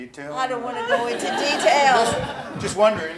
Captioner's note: laughs